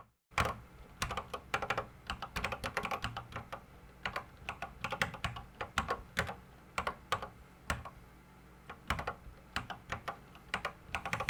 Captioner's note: typing on a Commodore 64 keyboard